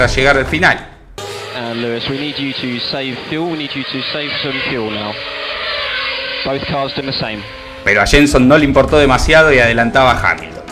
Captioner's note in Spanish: radio